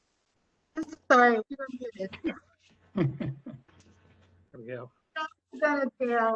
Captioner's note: laughter